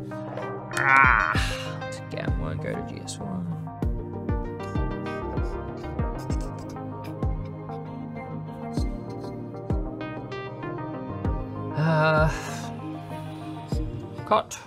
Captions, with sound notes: (grunts) To get one, go GS1. (sighs) Cut.